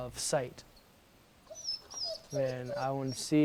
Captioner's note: dog whimpers